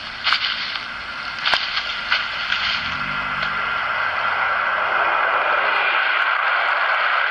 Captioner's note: airplane Noise